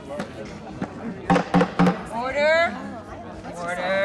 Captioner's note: banging gavel